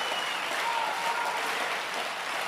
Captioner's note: applause